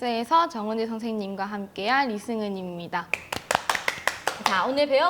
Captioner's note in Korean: 박수